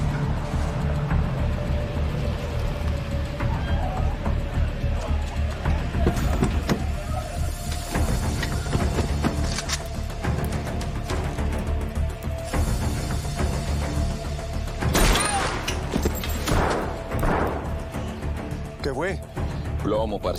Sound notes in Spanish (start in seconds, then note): 14.9 Disparo; 16.7 Disparos